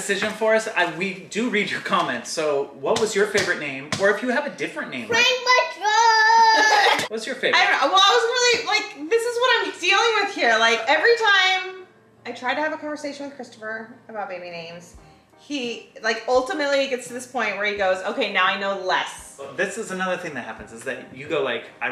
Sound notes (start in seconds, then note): 6.4 family laughing